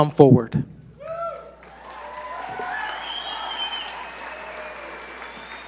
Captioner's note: audience cheer and applaud